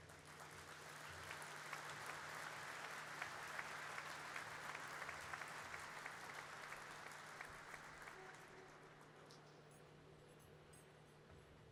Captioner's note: applause